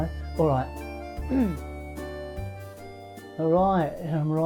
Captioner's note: clears throat